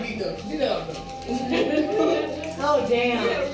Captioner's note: woman laughs